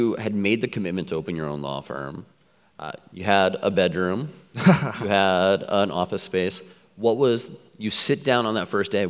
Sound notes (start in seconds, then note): 4.5 laughs